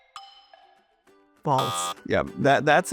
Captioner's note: buzzer buzzes